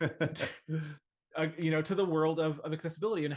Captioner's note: chuckles